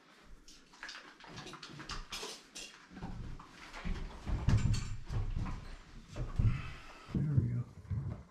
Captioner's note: footsteps